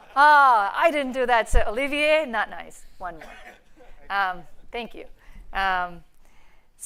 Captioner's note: laughter